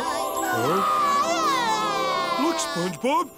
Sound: crying

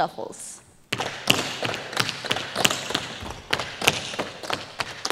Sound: tap shoes striking the floor

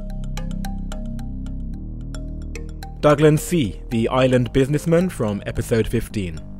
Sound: voiceover

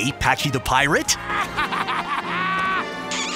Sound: laughing

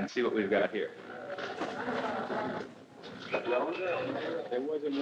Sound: restaurant noise

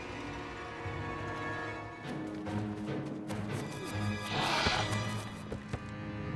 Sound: footsteps

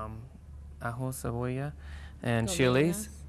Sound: speaks in Spanish

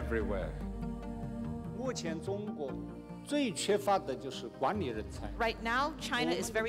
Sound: speaking chinese

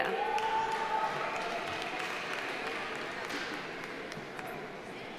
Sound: audience applauding

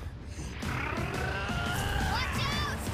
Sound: Octogan growling

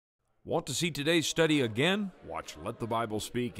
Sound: voiceover

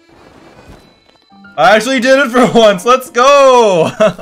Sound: laugh

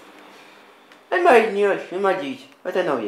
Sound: funny accent

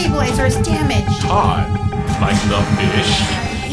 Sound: alarm sound

